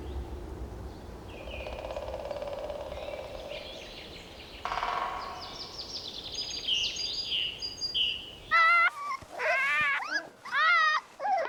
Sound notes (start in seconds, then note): 1.6 woodpeckers pecking; 8.6 pups whine